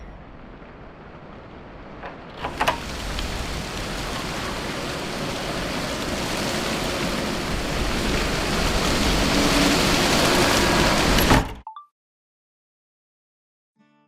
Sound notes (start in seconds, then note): 1.7 door opening, wind rushing; 11.2 door slams, chime of a phone recorder turning off